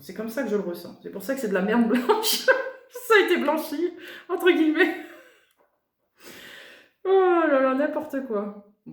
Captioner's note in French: rires